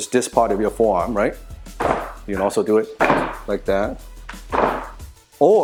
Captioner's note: Wing Chun dummy bangs